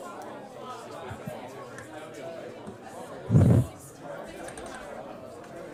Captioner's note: students chattering